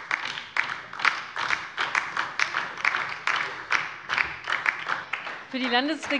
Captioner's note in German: Beifall DIE LINKE